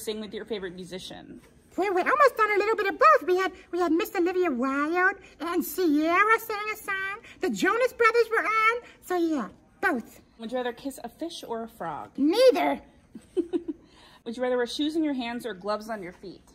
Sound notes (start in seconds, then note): 13.1 laughs